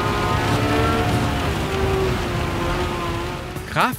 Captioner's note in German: Laute Motorengeräusche; Motorengeräusche werden schwächer